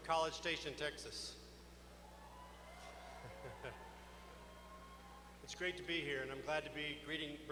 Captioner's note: laughter